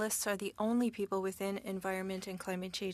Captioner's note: speaking French